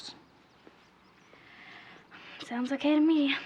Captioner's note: sighs